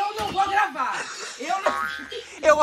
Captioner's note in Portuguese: risos